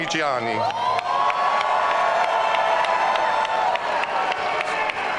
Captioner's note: audience cheering